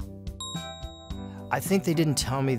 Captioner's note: bell dings